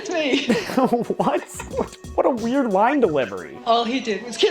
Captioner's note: laughing